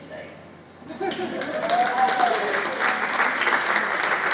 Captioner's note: cheering and applause